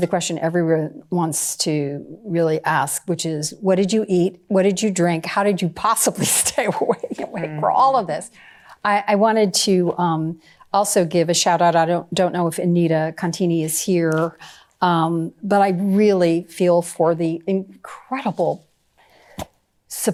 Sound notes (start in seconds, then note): 6.6 laughing